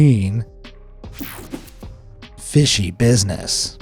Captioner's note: mellow music; graphic whooshes